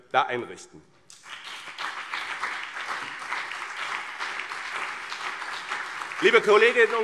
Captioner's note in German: Beifall BÜNDNIS 90/DIE GRÜNEN und CDU